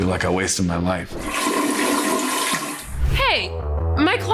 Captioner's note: toilet flushing